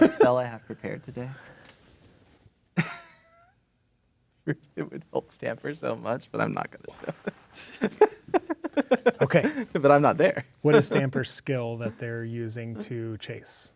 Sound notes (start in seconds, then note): 2.8 laughs; 7.5 laughing